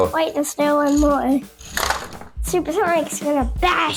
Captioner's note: crash